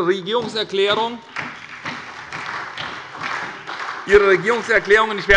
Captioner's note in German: Beifall bei der SPD